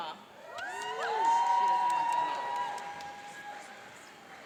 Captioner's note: cheering and applauding